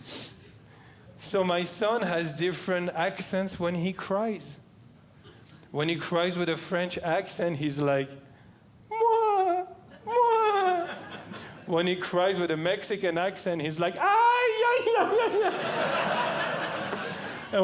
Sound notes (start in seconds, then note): 9.9 crying; 14.1 crying; 14.8 audience Laughing